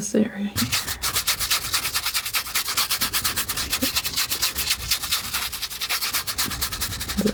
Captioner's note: sniffing